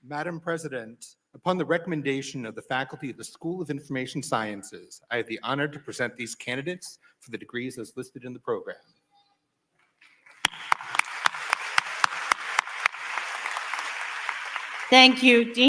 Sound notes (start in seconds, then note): 14.9 applause